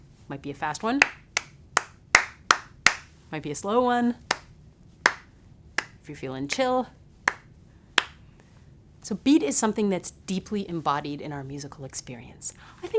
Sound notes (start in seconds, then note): 2.1 fast clapping; 2.1 slow clapping